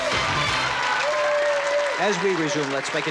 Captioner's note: theme music playing; cheering and clapping